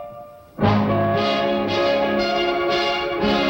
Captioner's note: bell ringing